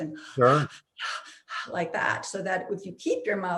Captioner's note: pants